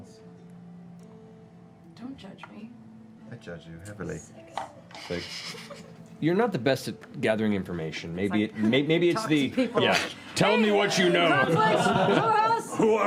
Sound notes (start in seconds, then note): 10.6 shouting; 12.9 deep voice